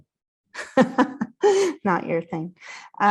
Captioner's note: laughs